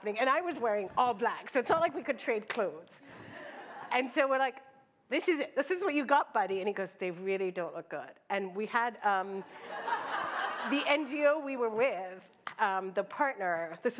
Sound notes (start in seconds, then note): 3.2 laughter; 9.5 laughter